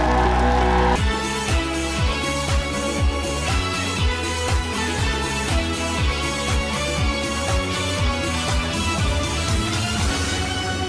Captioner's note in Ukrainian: оплески